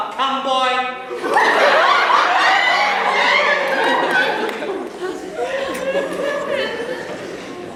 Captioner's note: laughter